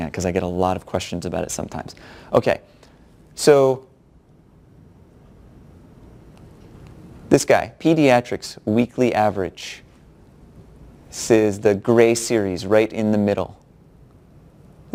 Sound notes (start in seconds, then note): 3.0 pause